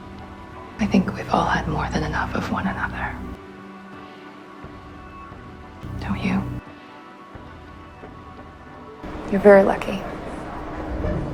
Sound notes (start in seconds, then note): 1.1 voiceover; 9.4 voiceover